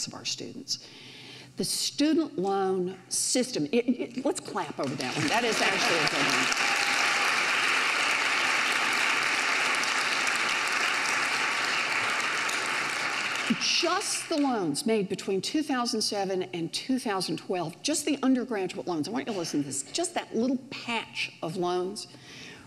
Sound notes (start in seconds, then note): 3.3 light clapping; 7.8 audience cheers